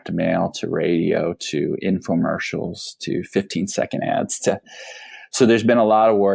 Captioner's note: deep inhale